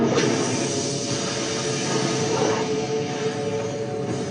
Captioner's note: industrial hissing